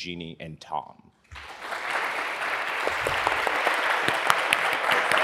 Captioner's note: audience clapping